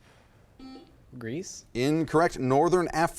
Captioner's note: buzzer chimes